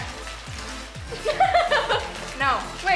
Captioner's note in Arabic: تضحك